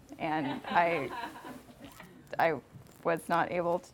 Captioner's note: audience laughing